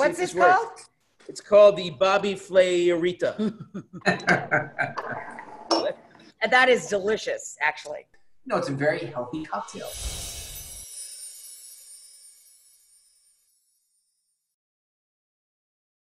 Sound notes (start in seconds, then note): 3.3 laughter